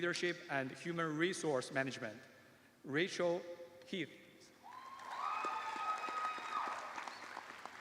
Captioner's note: cheers and applause